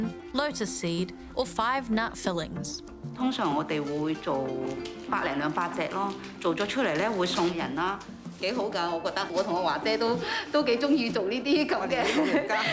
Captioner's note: speaks chinese language